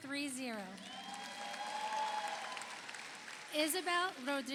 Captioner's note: audience applauds; audience cheers